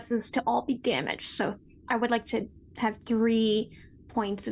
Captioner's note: none